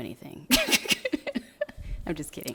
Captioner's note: laughing